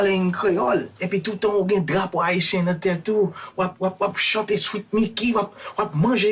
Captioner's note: character speaking in Creole